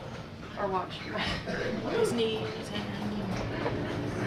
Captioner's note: chuckles